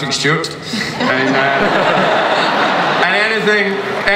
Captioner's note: audience laughs; panel laughs